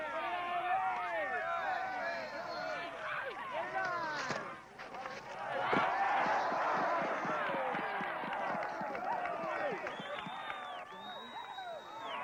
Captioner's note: cheering